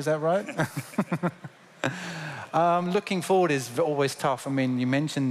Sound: laughter

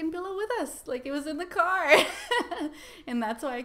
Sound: laughs

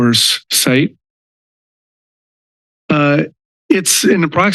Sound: pause

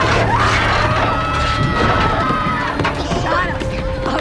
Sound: passenger screaming

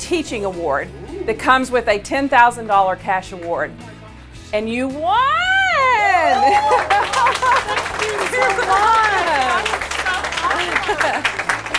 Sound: clapping

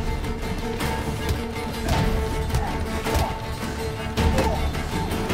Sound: punches land, groaning

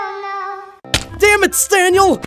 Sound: Pig thumps

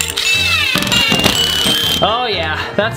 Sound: drill sounds

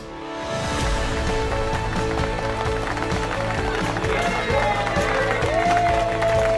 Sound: celebratory music; clapping and cheering

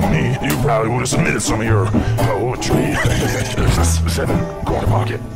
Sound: laughing

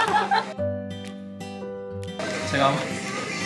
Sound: candle blowing

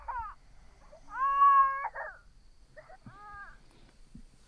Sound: baby crying

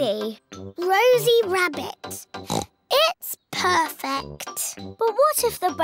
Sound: oinks

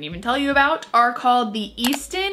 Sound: mouse clicks

